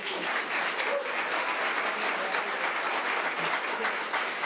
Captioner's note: audience applause